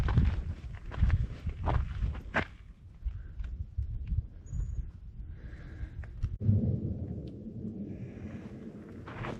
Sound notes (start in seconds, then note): 2.6 wind blowing